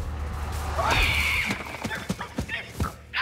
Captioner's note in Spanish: chillido de cerdo